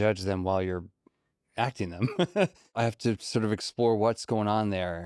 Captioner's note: laughs